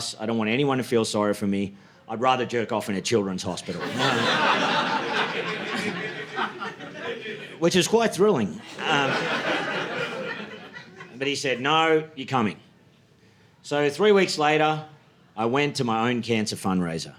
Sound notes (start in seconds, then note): 3.6 audience laughing